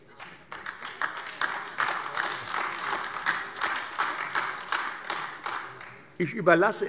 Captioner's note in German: Beifall AfD